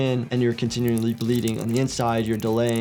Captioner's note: gel oozing